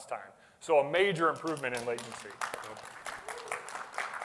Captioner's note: applause